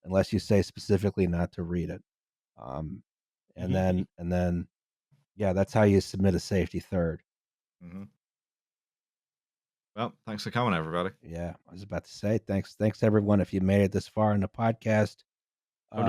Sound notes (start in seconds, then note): 3.7 chuckles